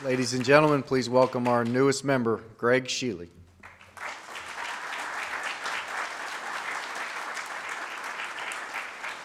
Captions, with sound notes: - Ladies and gentlemen, please welcome our newest member, Gregg Shealy. (audience claps)